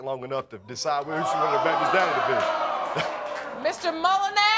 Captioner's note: audience exclaims